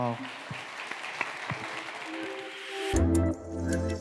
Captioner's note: all clapping